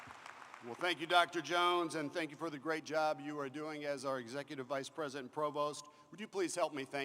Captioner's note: applause